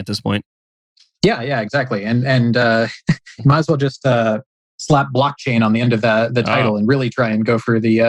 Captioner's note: laughs